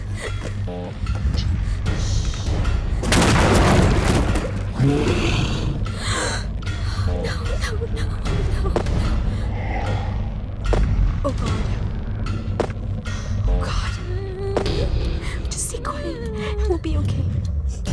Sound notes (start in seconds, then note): 14.1 joey whimpering